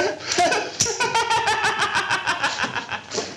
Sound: Carlos laughs

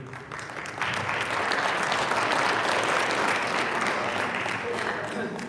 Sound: audience applauding

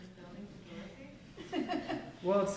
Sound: laughter

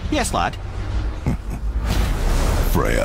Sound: chuckle

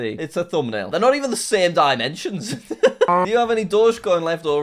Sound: laughs

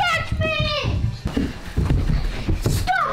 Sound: feet Stomping

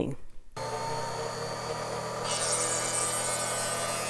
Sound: grinding

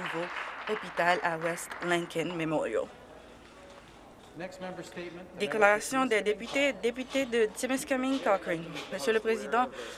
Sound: applause

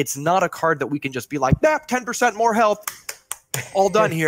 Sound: clapping

